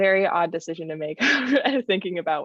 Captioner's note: laughter